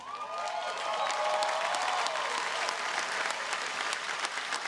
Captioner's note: audience applauding